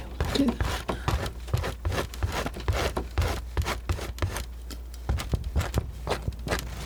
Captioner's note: scratching